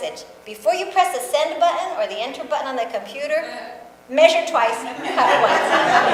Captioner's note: audience laughs